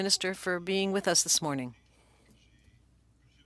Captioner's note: speaking French